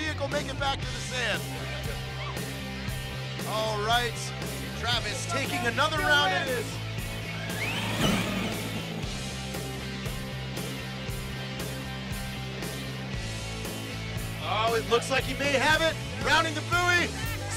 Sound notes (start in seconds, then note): 7.4 engines revving